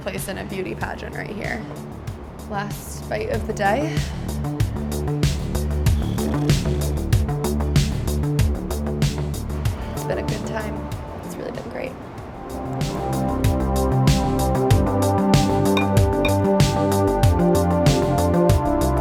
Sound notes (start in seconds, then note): 4.0 mellow music; 6.0 blows raspberry